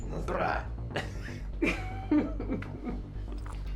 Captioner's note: both laugh